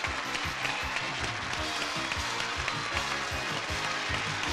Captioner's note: audience cheering